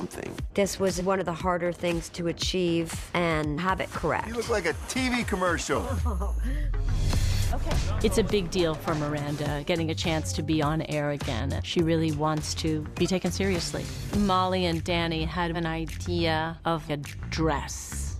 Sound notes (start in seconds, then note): 5.9 chuckling